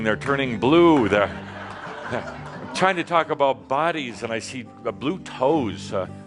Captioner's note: laughter